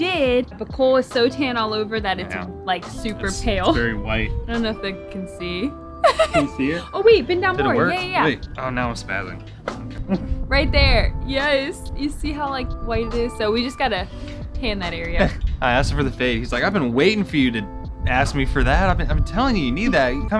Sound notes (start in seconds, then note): 6.0 laughs